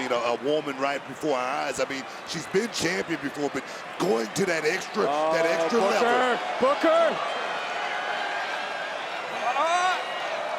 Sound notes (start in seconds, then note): 7.2 crowd chattering